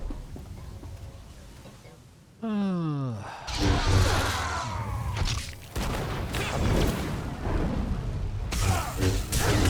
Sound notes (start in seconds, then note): 2.4 sighs; 5.9 gunshots